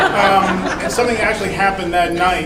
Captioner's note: crowd laughing